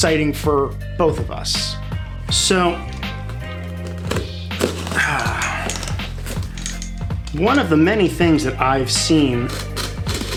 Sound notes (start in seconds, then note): 3.7 box cutting sounds